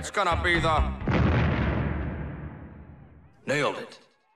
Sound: bomb explosion sound

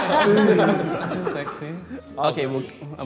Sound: all laughing

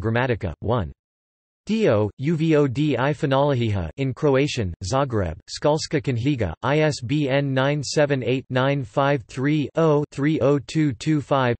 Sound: in Croatian

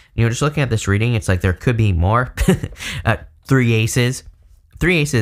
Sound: chuckling

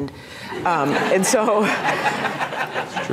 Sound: laughter

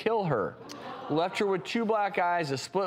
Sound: audience gasps

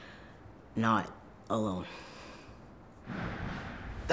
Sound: sigh

